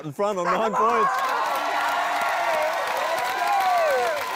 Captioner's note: cheering, applause